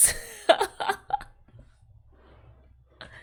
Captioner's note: laughs